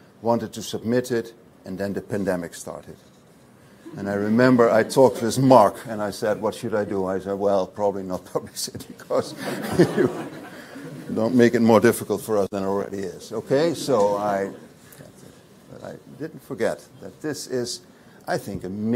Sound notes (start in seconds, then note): 3.9 audience laughs; 9.3 laughs